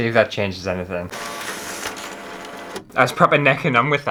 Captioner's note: scanning Sounds